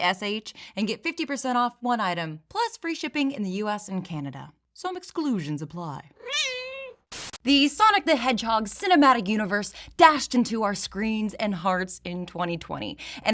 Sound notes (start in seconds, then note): 6.2 meow